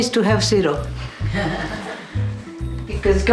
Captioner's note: chuckling